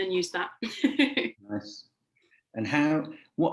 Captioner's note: laughing